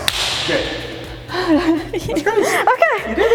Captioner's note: laughs